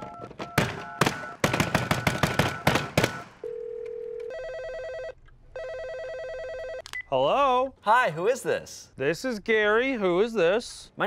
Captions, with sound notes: (hand slamming) (dialing continues) (phone ringing) (phone beeps) - Hello? - Hi, who is this? - This is Gary. Who is this?